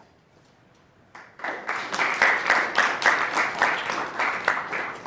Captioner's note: applause